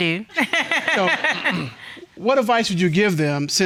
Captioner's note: laughing